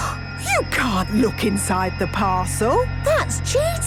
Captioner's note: gasps